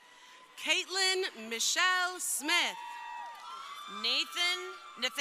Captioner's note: crowd cheering